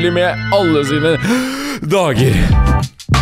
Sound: breathe

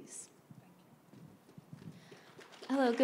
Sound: applause

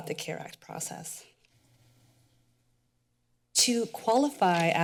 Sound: pause

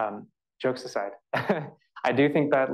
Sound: laughs

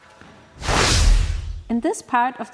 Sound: wooosh

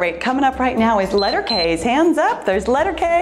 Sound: timer beeps

